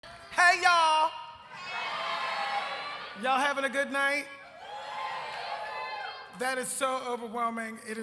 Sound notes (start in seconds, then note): 4.7 cheers